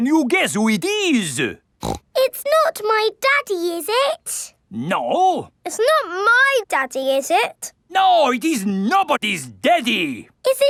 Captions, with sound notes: Can you guess who it is? (SNORTS) It's not my daddy, is it? No. It's not my daddy, is it? No, it's nobody's daddy.